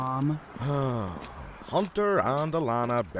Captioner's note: sighs